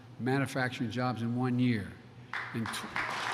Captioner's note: applause